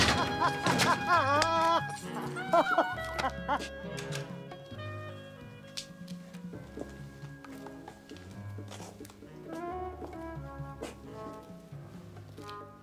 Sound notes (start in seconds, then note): 0.0 laughing